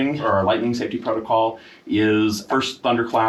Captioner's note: none